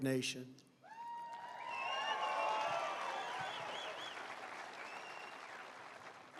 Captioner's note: applause